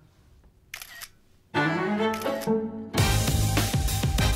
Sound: camera clicks; upbeat music

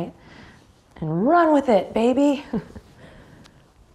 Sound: chuckles

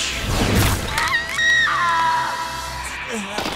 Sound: 18 screaming

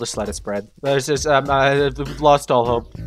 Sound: stammers

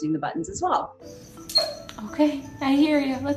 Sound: dog whining

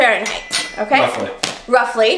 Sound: tools clanking

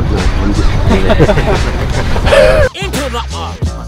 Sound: laughing

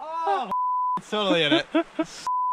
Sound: beep

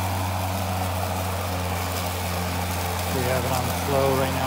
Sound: lawn mowing noises

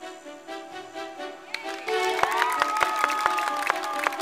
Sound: happy music playing; crowd cheering

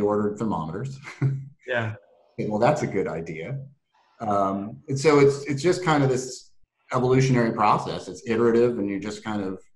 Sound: laugh

